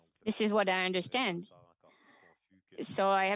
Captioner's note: speaking French